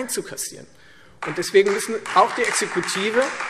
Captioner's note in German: Beifall Freie Demokraten